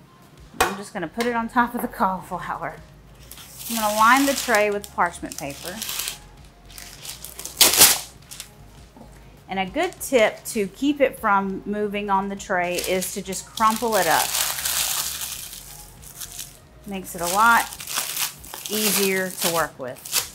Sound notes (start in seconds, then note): 5.2 paper rustling; 6.7 loud ripping; 13.5 paper rustling